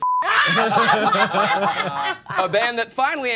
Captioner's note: all laughing